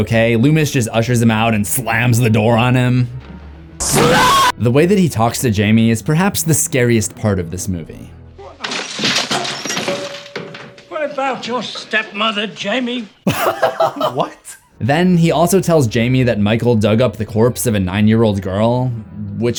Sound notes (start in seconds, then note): 8.5 crashing; 13.2 laughs